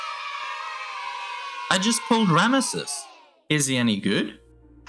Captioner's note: cheer